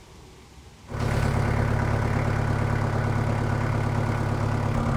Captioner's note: engine revving